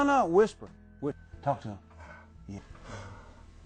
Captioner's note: Skidboot's low breaths